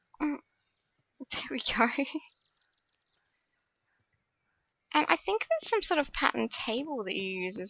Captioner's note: laughs